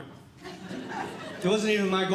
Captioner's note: audience Laughing